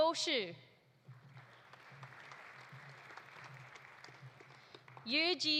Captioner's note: audience applauding